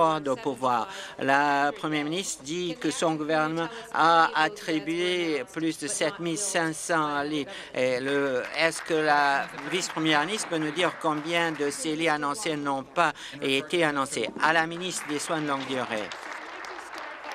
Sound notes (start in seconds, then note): 11.5 applause